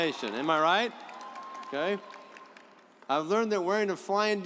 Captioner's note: audience applauds